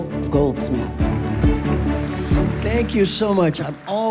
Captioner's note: applause